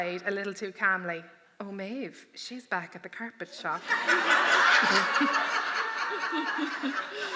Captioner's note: laughter